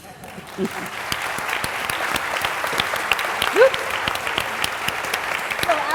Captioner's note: applause